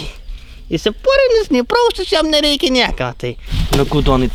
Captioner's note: sarcasm